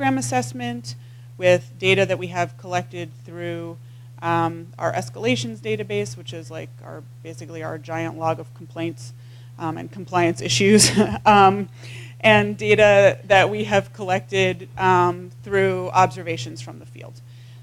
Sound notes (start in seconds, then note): 10.8 laugh